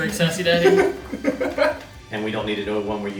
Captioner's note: laughing